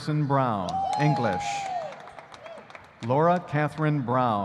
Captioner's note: audience cheering